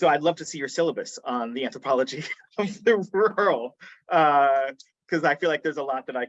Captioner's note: chuckling